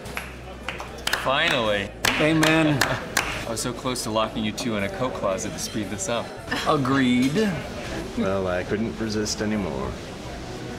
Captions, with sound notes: [applause] - Finally! - Amen. I was so close to locking you two in a coat closet to speed this up. Agreed. Well, I couldn't resist anymore.